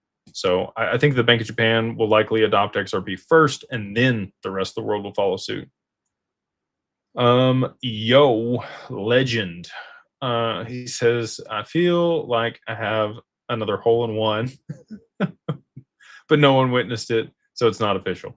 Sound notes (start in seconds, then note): 14.6 laughter